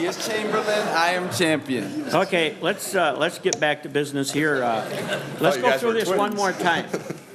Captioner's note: laughter